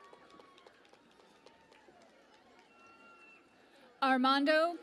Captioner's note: cheering and Applause